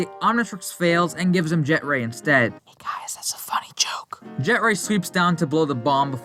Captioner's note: whispering